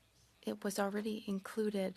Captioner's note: speaking French